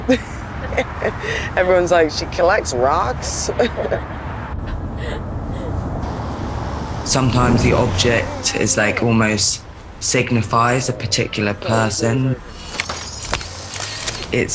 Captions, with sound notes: (laughs) Everyone's like, "She collects rocks?" (laughs) Sometimes the object is like, almost signifies a particular person.